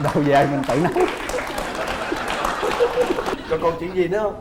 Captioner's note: laughing